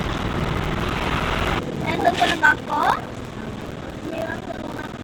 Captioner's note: bump